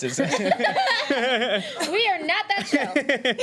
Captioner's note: laughing